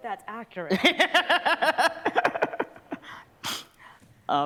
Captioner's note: laughter